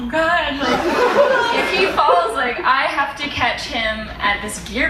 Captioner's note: crowd laughs